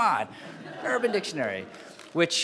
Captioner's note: laughing